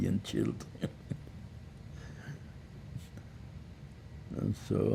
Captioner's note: laughing